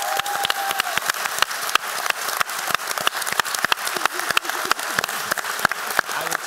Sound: applause

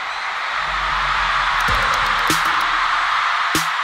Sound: roar of audience swells in; keyboard typing; crowd roaring

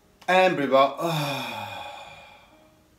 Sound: exhales

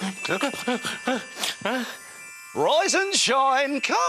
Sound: gasps

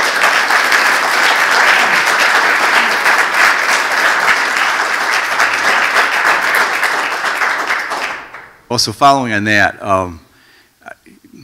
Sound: applause

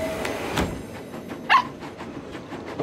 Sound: barking

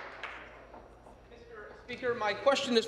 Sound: applause

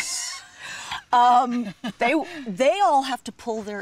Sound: both laugh

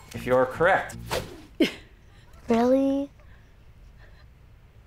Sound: chuckles

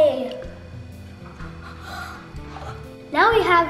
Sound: breathing

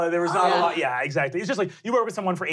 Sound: sighs

